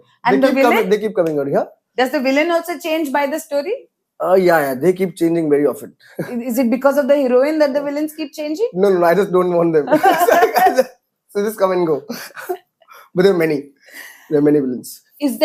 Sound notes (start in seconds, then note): 6.0 laughs; 9.9 laughs; 12.6 laughs